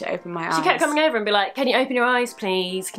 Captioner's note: nasally voice